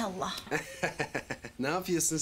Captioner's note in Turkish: Gülüyor